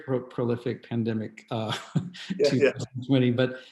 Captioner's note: laughing